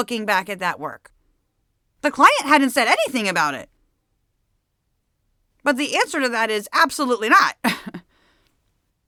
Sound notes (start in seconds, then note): 7.6 laughs